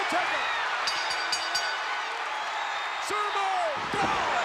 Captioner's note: bell ringing